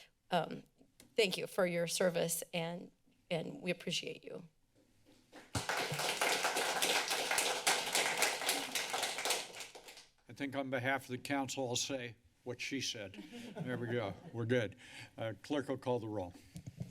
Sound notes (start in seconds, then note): 5.4 applause; 13.1 laughter